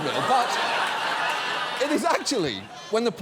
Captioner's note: studio audience laughs